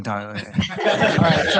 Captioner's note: laughter